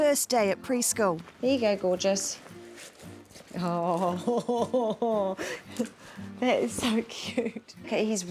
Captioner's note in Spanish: risas